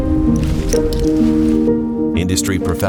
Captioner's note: upbeat music; clips clacking